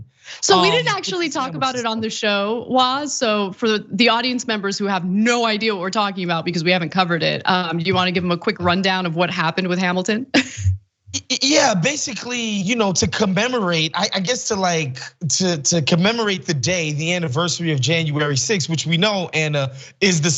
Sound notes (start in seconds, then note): 10.6 laugh